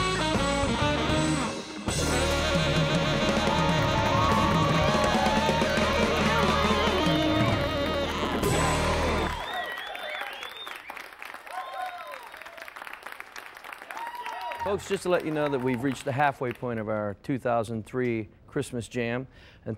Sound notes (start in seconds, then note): 4.4 audience applauding; 4.4 audience cheering